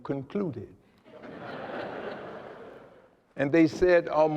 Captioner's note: laughter